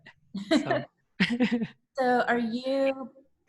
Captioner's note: chuckle